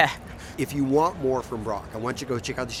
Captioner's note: laughs